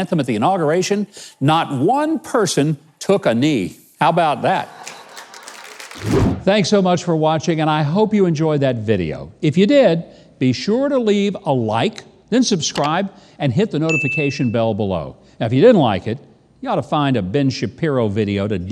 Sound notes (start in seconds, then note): 4.4 audience applauds; 13.9 bell dings